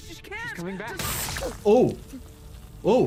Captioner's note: laser whirring